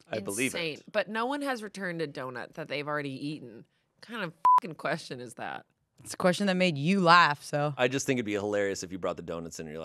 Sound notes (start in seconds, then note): 4.4 beep